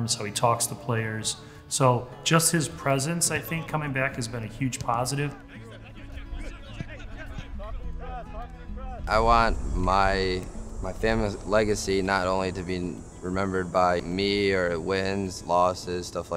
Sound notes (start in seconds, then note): 5.2 people talking in background